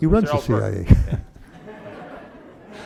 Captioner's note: laughter